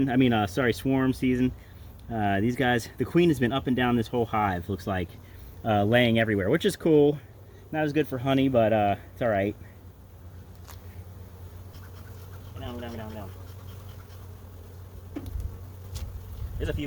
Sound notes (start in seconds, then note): 11.3 bees buzzing; 11.5 bee smoker pumping; 14.5 bees buzzing